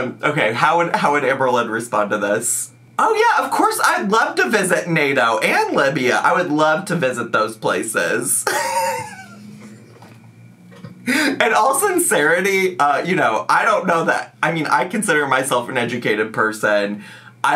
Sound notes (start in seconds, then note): 8.4 snickers